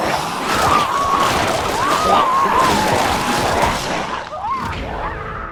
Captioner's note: character screaming